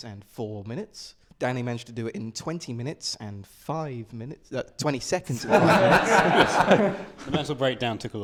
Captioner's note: laughter